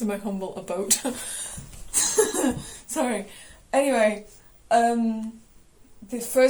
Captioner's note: laughs; continues Laughing